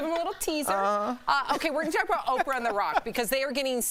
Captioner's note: laughter